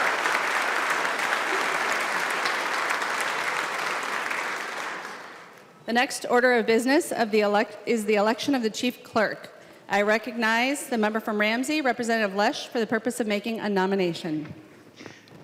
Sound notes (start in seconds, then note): 0.0 applause